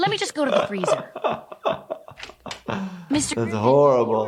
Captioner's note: laughing